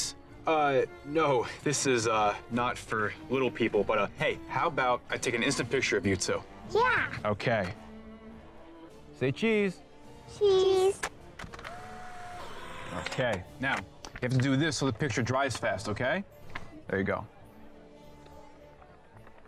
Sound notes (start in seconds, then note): 11.6 camera whirring